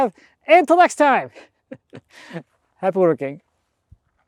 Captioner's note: chuckles